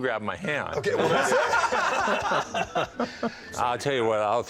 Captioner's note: laughter